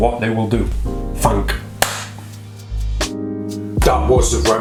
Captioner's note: clapping